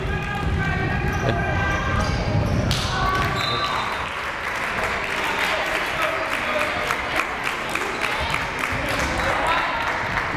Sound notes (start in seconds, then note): 3.3 whistle blaring; 5.9 crowd applauding